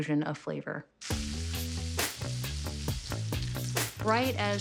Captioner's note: sizzling